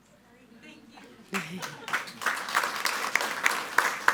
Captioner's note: all applauding